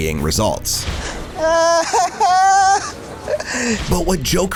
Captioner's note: laughter